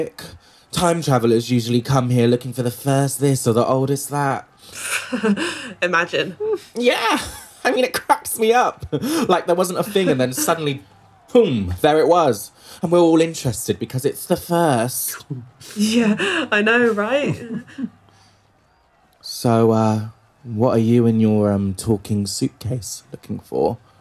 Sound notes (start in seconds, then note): 17.3 nervous laughter